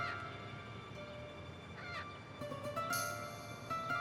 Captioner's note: suspenseful orchestral string music; crow cawing